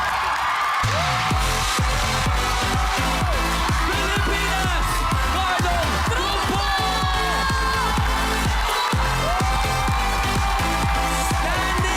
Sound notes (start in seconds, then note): 0.2 crowd cheering, applauding; 0.2 upbeat music playing; 8.5 cheering